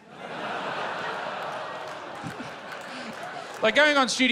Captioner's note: laughter